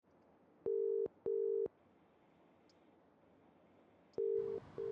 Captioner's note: dial tone ringing